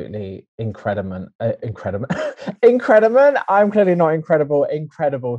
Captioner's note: laughs